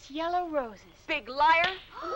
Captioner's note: hand slapping